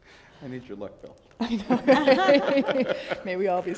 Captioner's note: all laugh